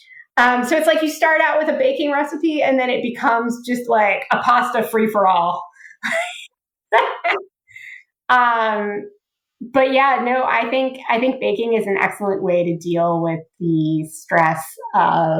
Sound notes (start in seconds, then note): 6.9 laughs